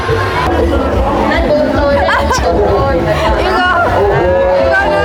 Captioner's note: laughing